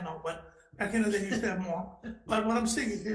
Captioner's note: laughing